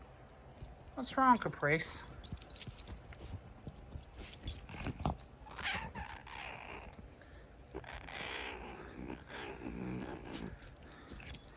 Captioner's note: Caprice meows then growls